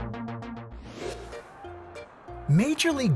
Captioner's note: air whoosh